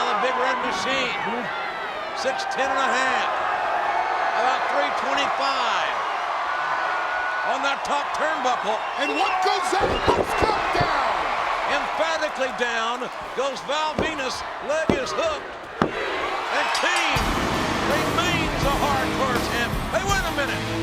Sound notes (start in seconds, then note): 16.5 crowd cheering; 16.6 bell dinging